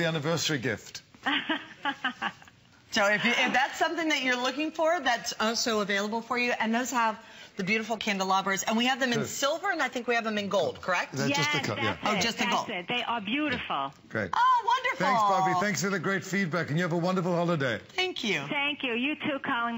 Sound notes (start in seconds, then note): 1.2 laughter